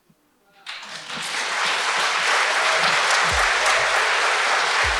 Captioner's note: audience applauds